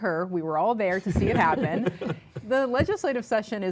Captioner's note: laughter